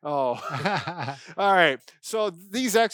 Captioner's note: laughs